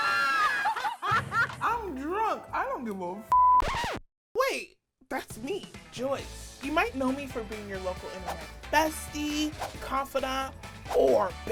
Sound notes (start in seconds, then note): 0.0 screaming; 1.1 laughing; 3.6 record scratch; 5.2 upbeat music